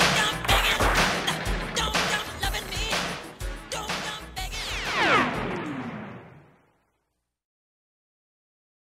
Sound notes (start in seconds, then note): 4.4 spaceship sounds